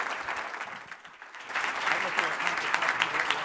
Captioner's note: applauding; murmuring